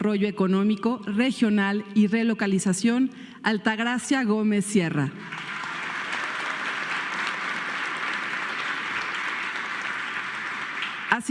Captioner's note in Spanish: aplausos